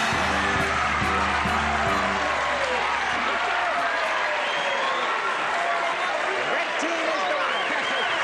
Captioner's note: applause, cheering